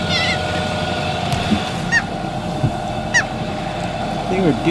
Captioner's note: loud squawking